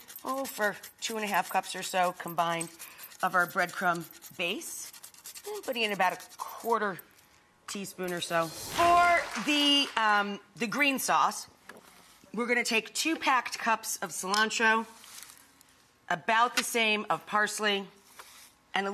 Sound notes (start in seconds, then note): 9.4 applause